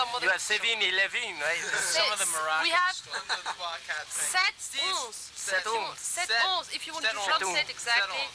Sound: French accent

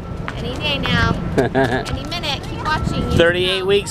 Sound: laughing

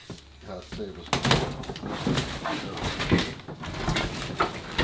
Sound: crunching

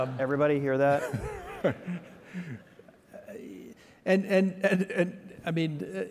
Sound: Michael laughing

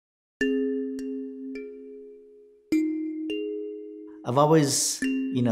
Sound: slow bright chime

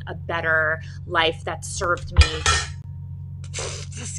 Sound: metal clinks; blows raspberry

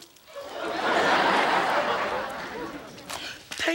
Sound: audience laughing

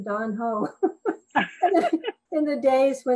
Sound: all laughing

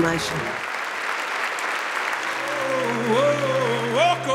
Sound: audience applauding

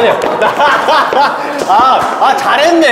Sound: laughing

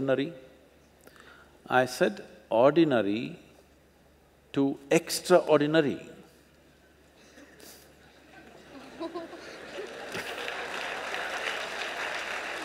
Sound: laughter/Applause

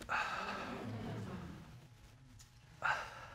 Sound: audience murmuring

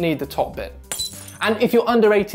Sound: glass shattering

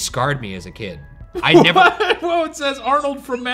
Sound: laughs

